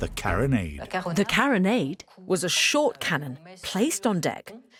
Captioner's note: voiceover